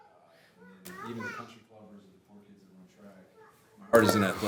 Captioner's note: faintly speaking